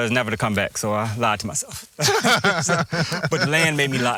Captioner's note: laugh